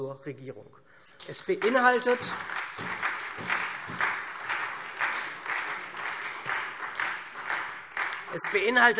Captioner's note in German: Beifall SPD und Freie Demokraten